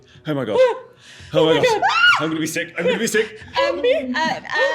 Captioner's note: screams